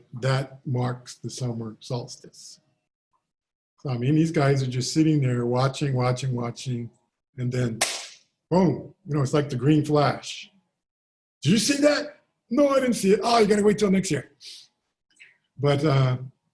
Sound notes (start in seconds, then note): 7.8 claps